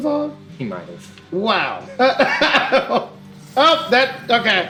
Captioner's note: laughs